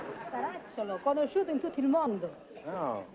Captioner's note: speaking italian